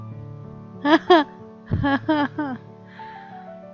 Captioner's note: laughs